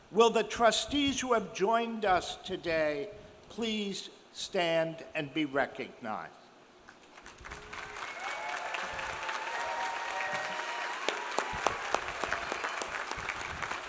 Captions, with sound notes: Will the trustees who have joined us today please stand and be recognized? (audience cheers) (audience applauds)